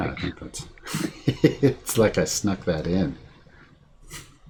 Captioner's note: laughing